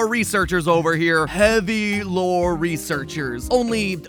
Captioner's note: mocking imitation